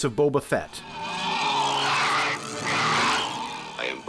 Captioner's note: monster gratingly groaning